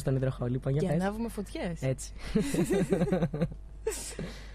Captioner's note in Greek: γέλια